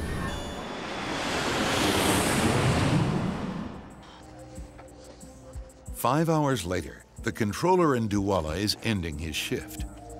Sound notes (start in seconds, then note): 0.0 plane wizzing